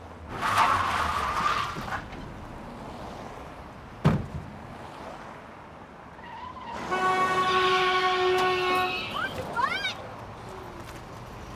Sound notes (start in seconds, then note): 0.1 tires squealing; 6.1 tires squealing; 6.7 horn honking; 9.0 woman shouts